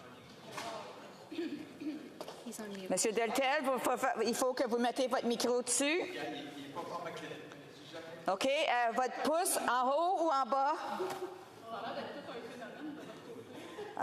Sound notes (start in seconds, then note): 4.9 speaking French